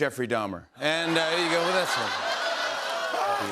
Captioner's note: laughter